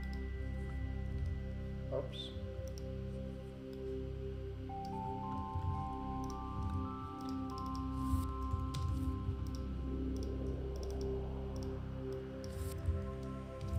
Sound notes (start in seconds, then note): 4.3 gentle calming music continues; 7.1 mouse clicking